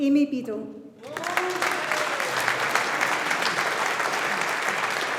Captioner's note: audience applauding